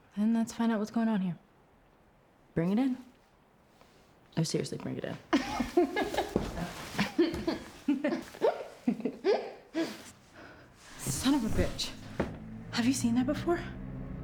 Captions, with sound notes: Then let's find out what's going on here. Bring it in. Oh, seriously bring it in. (laughs) (Rachel and Claire laugh) Son of a bitch, have you seen that before?